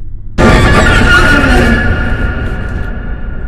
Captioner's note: shrieks